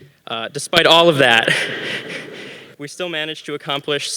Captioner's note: laughs